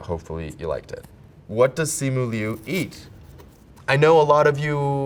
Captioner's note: paper rips